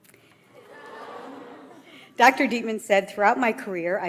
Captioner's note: audience laughs